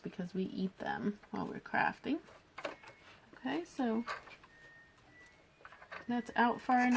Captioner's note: background beeping